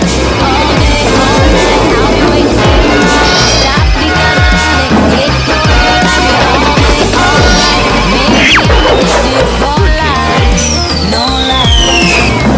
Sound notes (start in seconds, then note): 3.1 biff!; 7.2 smack!